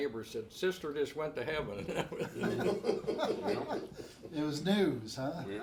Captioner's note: everyone laughs